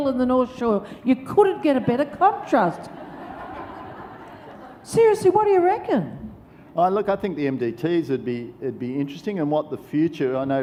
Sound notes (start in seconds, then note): 1.8 audience laughs